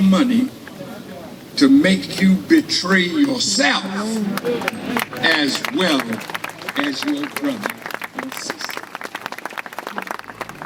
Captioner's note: applause